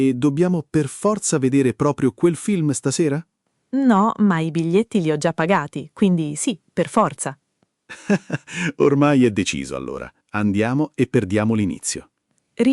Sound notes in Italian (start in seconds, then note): 7.9 Haha